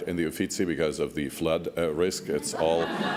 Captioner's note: laughs